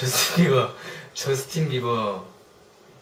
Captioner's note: awkward laugh